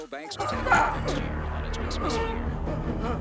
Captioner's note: grunts; tense music